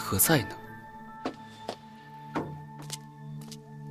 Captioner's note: knocking